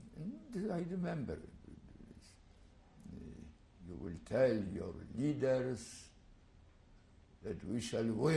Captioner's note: pauses for 3 seconds